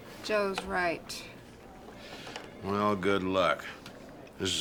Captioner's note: none